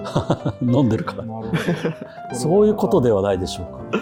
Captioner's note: laughing